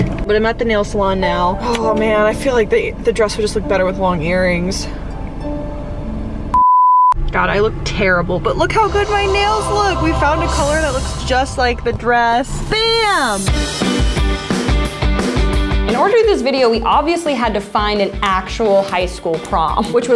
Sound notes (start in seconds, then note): 6.5 beep; 13.6 upbeat music